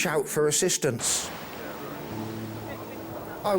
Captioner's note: wind whooshing; gentle music